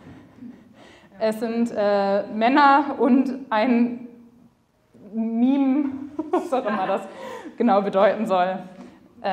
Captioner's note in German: lacht